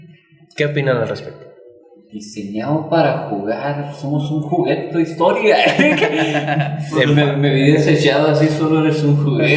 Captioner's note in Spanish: risas